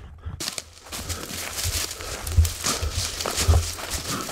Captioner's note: leaves crunching